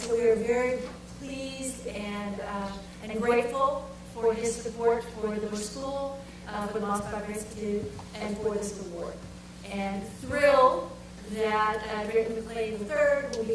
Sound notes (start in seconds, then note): none